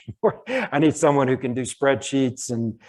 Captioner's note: chuckles